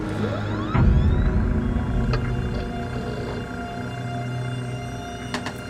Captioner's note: crate whirring mechanically